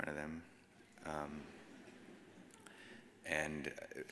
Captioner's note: audience chuckles